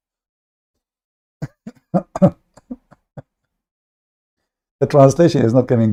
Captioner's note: Ketawa